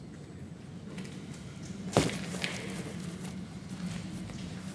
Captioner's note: none